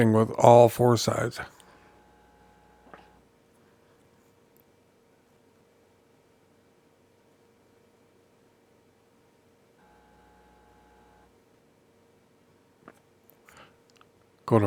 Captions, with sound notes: thing with all four sides. [Silence]